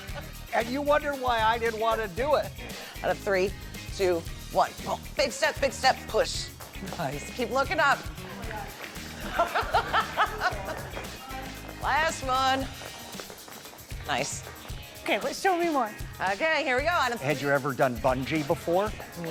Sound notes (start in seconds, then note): 8.0 all laughing